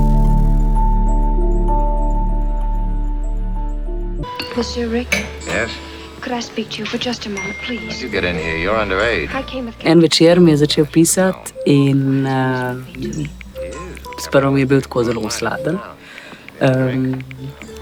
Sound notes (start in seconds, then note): 4.3 message sound; 4.5 sound of movie on TV